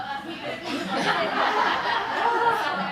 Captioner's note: laughter